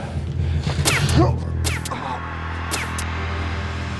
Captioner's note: gun fires